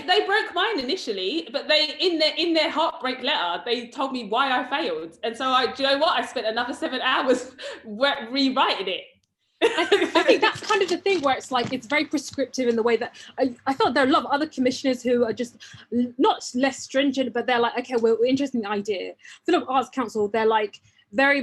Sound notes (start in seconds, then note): 9.7 laughs